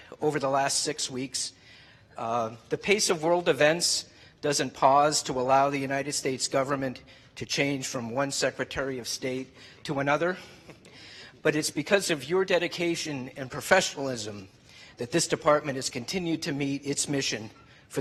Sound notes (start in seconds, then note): none